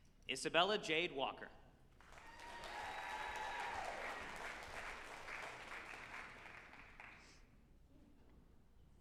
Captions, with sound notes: Isabella Jade Walker, (group applauding and cheering)